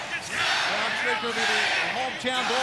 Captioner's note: referee faintly speaking